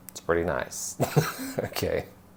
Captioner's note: laughter